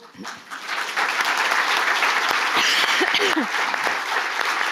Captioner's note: audience applauding